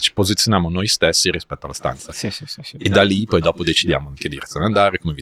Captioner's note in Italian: risate